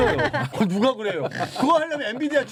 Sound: laughs

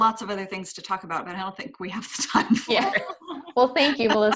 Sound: laughs

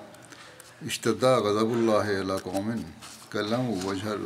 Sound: Arabic

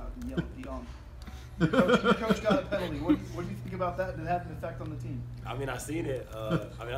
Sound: laugh

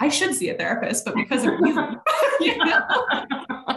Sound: laughing

